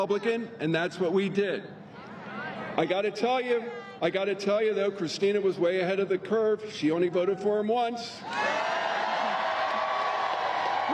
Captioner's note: applause